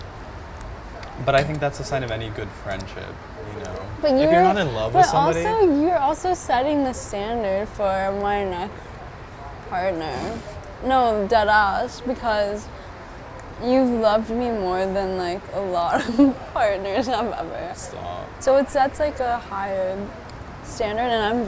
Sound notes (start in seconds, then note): 15.8 laughing